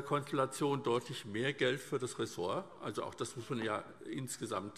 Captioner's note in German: none